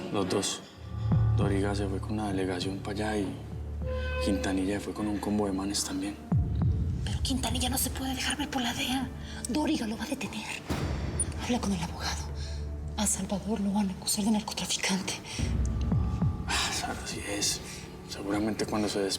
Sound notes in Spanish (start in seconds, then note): none